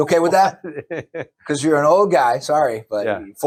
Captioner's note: laughs